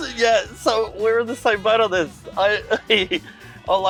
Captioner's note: laughs